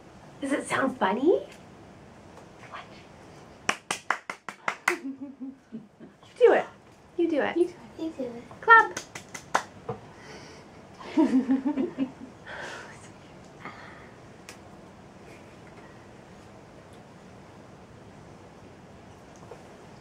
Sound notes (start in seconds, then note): 3.6 claping; 8.8 claps; 11.0 laughing